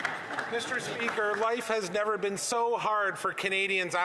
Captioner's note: some Applause